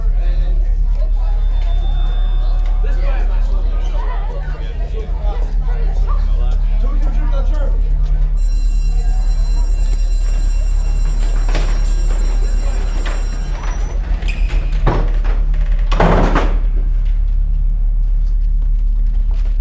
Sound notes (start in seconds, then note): 8.3 school bell ringing; 10.2 doors opening; 11.6 footsteps thudding; 15.0 doors thudding